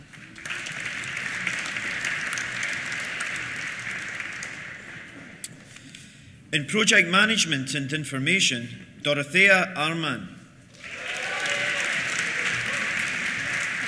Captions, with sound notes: (APPLAUSE) In Project Management and Information, Dóróthea Ármann. (CHEERS) (APPLAUSE)